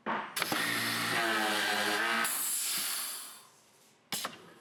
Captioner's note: machine revving